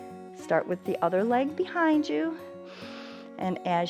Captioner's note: inhales